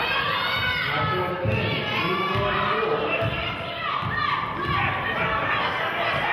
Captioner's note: cheering and clapping; murmurs